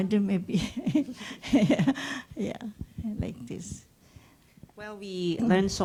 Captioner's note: laughs